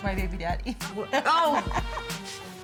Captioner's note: laughing